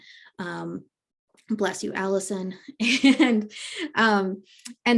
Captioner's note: giggles